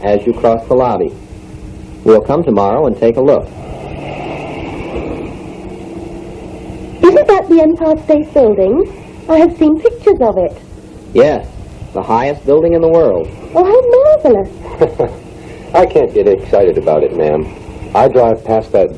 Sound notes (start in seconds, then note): 4.0 car running. Fade; 5.2 excited; 14.5 laughs